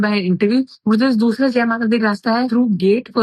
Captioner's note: speaking in foreign language